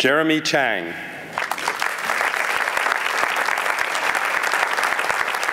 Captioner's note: applause